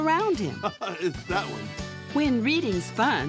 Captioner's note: laughs